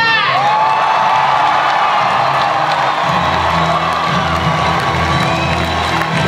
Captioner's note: audience cheering and applause